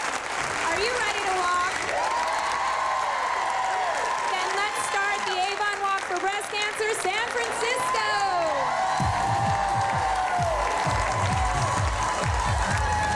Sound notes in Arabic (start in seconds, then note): 9.0 موسيقى حية; 9.2 هتاف